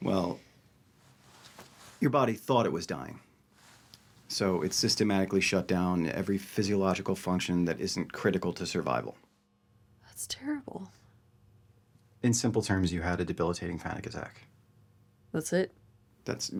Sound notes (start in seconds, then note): none